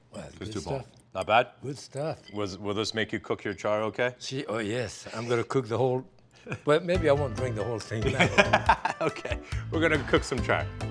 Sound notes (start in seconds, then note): 8.2 laughing